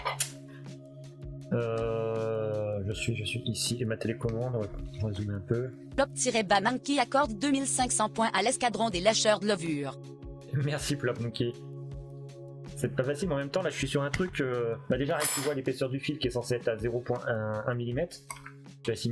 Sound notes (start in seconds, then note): 4.5 voiceover